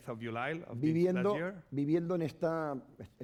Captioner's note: speaking spanish